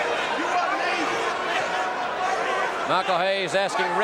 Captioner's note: audience cheering